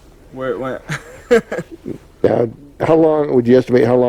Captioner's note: chuckles